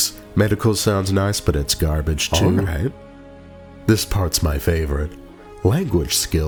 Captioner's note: sneeze